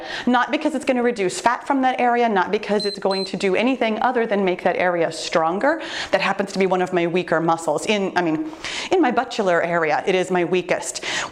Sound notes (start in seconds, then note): 2.7 timer beeps